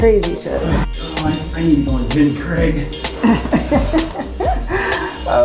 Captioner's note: laughter